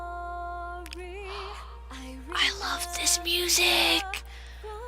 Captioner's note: gasps